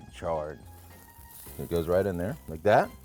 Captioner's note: fire sizzles